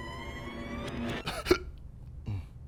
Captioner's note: hiccups